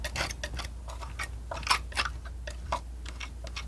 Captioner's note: tapping